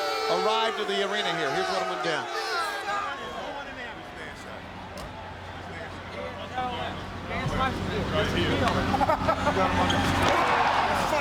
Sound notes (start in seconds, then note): 2.3 people chattering; 8.9 Scott laughs